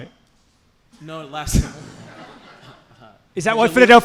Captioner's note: laughs